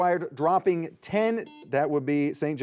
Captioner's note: buzzer beeps